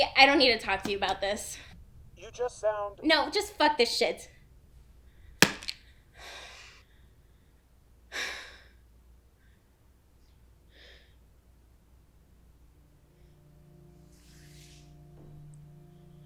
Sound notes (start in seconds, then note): 6.3 Casey sighing; 13.5 somber music